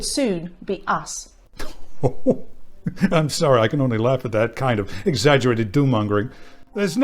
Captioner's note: guffaws